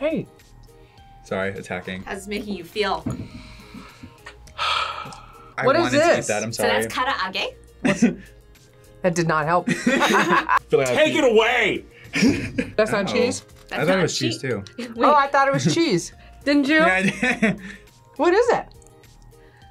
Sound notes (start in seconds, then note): 3.3 sighs; 9.8 laughs; 17.7 laughs